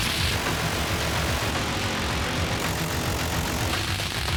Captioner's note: rapid gunfire